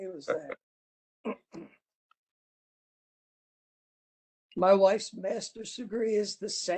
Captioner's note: laugh